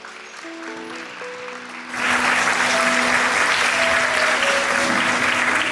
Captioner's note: applause